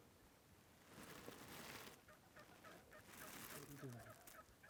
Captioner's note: grass rustles again